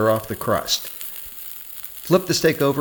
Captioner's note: steak sizzling